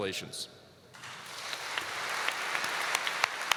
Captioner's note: applause